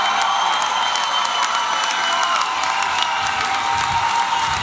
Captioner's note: applause and cheering